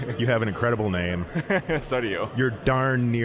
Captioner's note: laughing